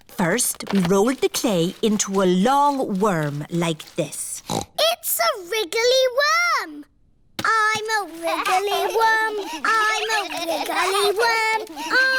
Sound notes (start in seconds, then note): 4.3 snorts; 10.9 all laughing